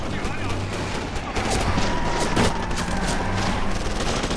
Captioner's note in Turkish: Silah sesleri